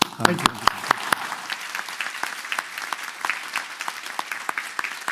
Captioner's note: applause